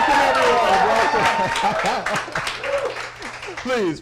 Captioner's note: applause